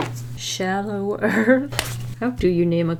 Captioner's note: laughs